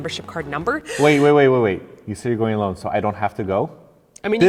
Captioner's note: deep breath